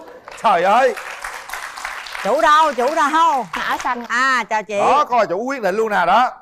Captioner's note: applause